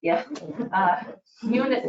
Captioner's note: chuckling